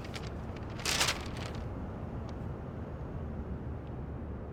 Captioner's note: paper rustles